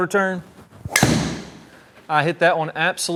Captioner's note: golf club smacks